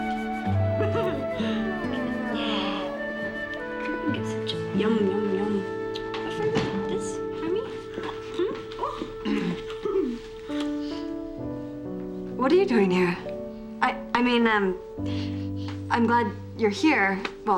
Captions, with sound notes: (LAUGHS) Yeah. Yum, yum, yum. For me? This, for me? (CLEARS THROAT) What are you doing here? I mean, I'm glad you're here. Well...